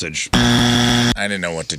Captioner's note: buzzer